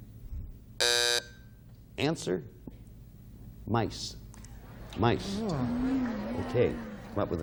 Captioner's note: buzzer